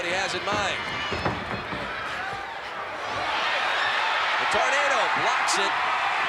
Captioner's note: applause